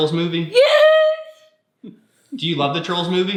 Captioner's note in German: Papa kichert